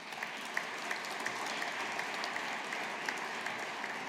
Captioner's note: audience applauding